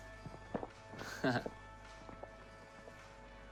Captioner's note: laughs